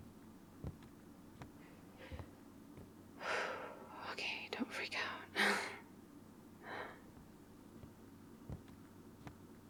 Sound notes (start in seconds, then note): 3.3 whispers; 6.7 footsteps returning